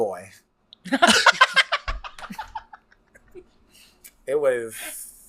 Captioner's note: laughs